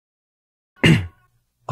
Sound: cough

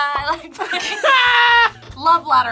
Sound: both laugh

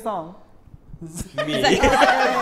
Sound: laughter

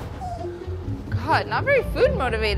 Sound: dog whining

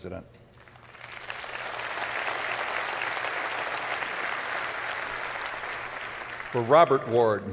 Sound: applause

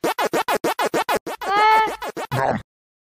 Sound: very tame scream

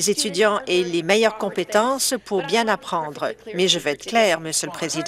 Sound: none

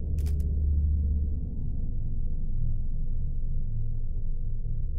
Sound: camera shutter clicking

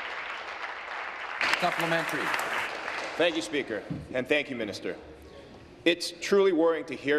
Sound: applause

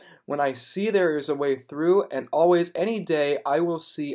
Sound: heavy sigh

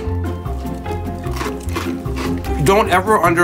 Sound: crunching

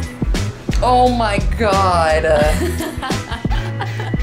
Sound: laughter

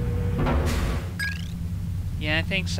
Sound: ding chirp

